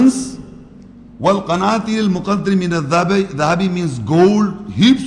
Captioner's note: Arabic